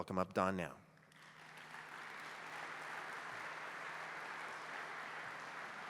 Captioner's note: applause